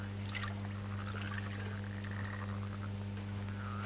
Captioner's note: water splashing